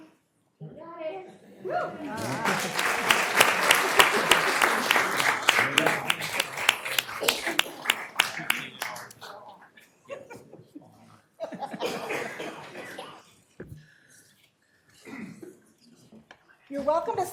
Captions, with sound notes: ONE, TWO, THREE. ONE, TWO, THREE. ONE, TWO, THREE. GOT IT. GOT IT. WHEW. WHEW. >> ALL RIGHT. >> ALL RIGHT. [ APPLAUSE ]